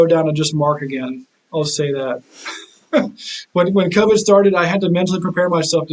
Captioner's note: chuckles